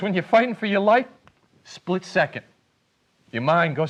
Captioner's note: snaps fingers